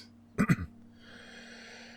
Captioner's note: clears throat